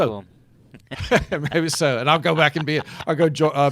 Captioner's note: laughing